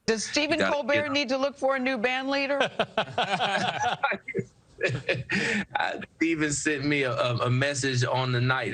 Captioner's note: laughs